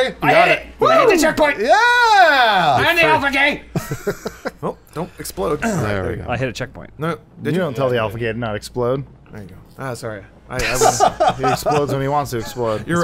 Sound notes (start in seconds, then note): 3.7 laughter; 10.6 laughs